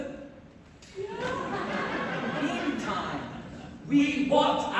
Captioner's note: laughter